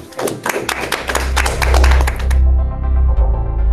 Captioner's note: applause